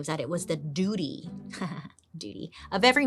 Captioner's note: laughs